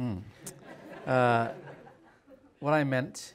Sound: audience chuckles

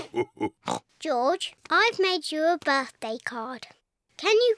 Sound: all laugh; oinks

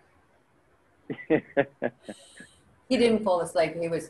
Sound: chuckling

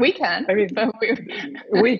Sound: laughs

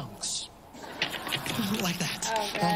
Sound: laughter

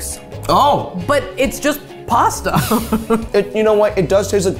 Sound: laughing

